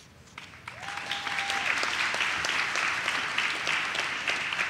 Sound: audience claps

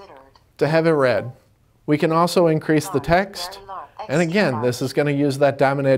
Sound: computer voice: Large. Very Large

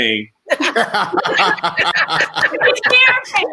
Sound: all laughing

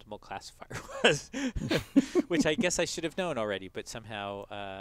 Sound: laugh

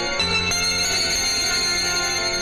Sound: none

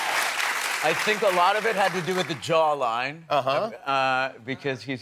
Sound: cheers and applause

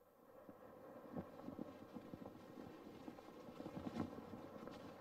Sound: flags flapping

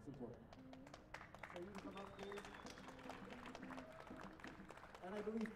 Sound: applause

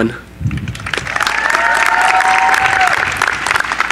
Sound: cheering

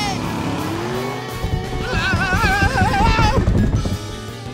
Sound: screaming

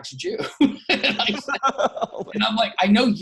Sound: laughing

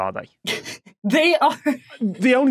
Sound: snickers

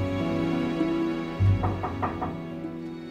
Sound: knocking on door; down-tempo music

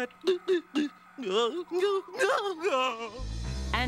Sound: groaning

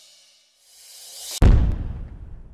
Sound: large boom

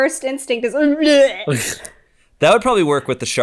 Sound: throwing up sound

